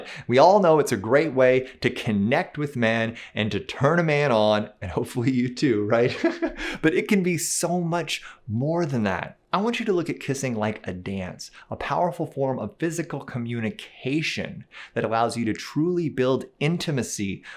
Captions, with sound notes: We all know it's a great way to connect with men and to turn a man on and hopefully you too, [laughs] but it can be so much more than that. I want you to look at kissing like a dance, a powerful form of physical communication that allows you to truly build intimacy